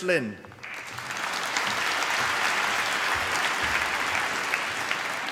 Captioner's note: applause